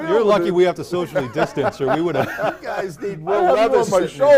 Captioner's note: laughter